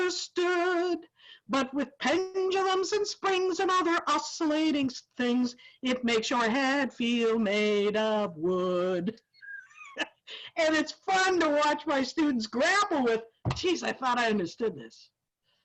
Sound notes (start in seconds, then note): 9.4 laughs